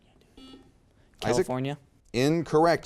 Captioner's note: buzzer beeps